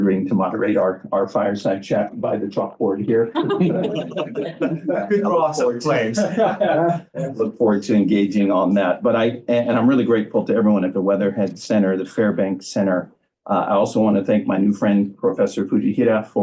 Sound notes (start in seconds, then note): 3.2 laughter